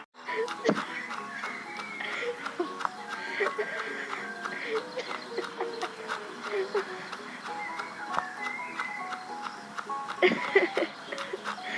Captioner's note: giggling